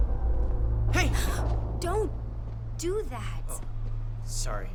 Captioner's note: gasps